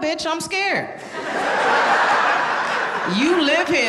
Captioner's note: audience laughing